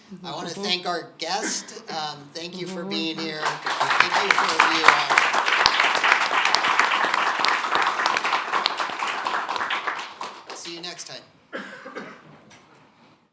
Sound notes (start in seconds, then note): 7.1 audience applauding